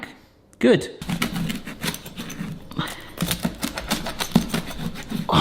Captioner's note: pizza crunches